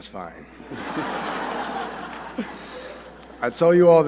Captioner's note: laughter